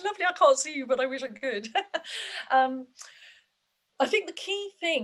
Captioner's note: laughs